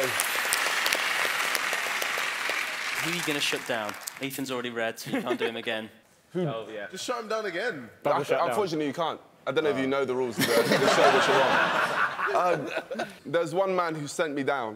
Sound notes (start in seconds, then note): 10.4 laughing drowns out speaking